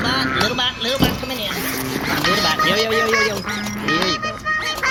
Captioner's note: scampering out; unzipping bag